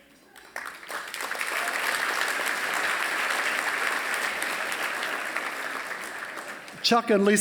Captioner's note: applause